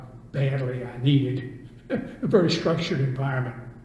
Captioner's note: laughs